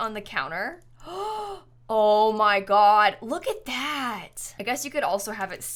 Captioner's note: gasps